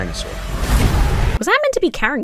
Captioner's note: dinosaur roars